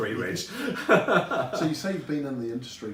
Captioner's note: laughs